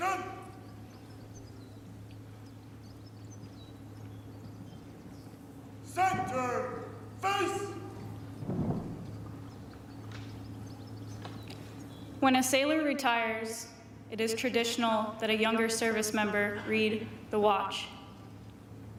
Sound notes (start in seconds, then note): 0.5 speaking french